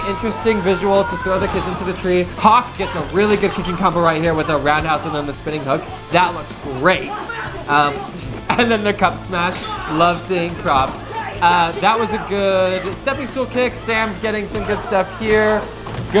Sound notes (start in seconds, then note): 10.2 laughs